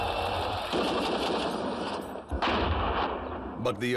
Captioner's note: crowd cheering; gunfire, blast